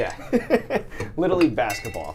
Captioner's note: laughs